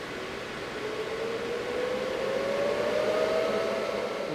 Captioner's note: machine Whirring